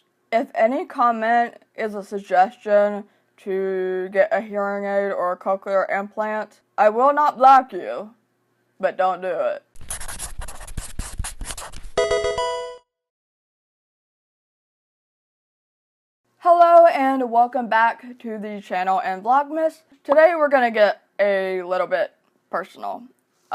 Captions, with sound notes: If any comment is a suggestion to get a hearing aid or a cochlear implant, I will not block you but don't do it. (MARKER SCRATCHING) (ELECTRONIC VIDEO GAME CHIME) Hello and welcome back to the channel and Vlogmas. Today, we're gonna get a little bit personal.